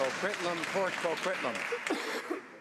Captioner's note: some Applause